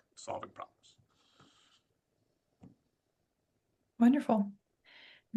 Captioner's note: silence